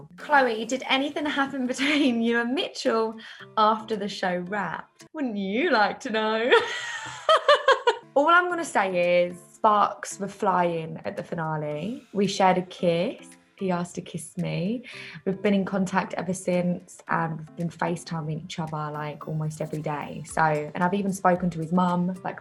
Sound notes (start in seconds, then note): 6.5 laughs